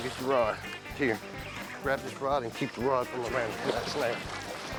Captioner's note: water splashing